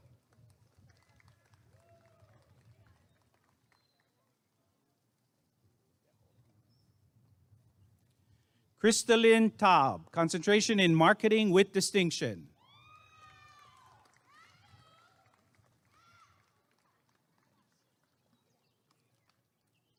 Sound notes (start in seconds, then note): 0.0 applause and cheering; 12.6 applause and cheering